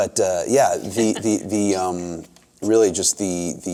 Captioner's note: laughs